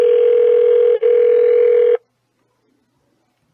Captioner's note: phone still ringing